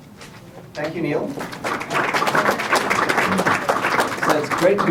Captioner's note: applause